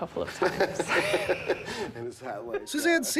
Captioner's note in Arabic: يضحك